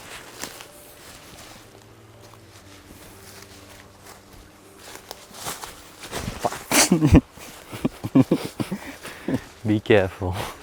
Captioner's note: laughs